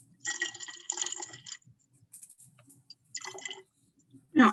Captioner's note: pouring sounds